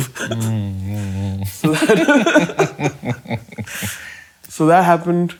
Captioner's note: laughing